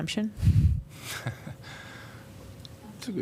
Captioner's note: laughter